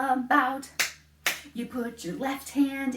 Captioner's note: clap, clap